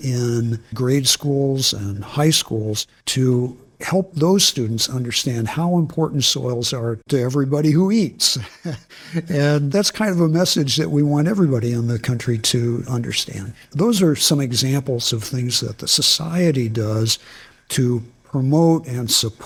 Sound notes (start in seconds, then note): 8.3 laughs